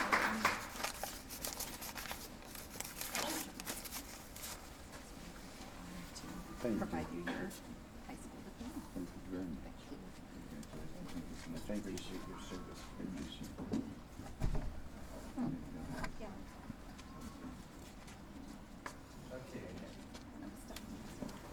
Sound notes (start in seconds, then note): 0.0 applause; 0.4 papers rustling; 6.2 indistinct chatter